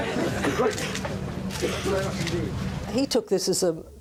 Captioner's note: camera shutters clicking